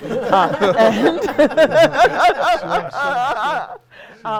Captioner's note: laughing